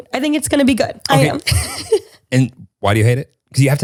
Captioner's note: laughs